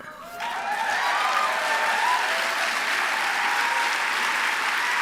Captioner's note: applause